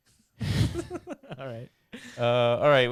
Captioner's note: laughing